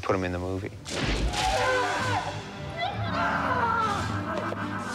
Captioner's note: shouting